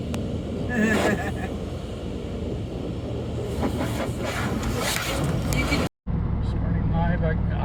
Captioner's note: car washing sounds; laughs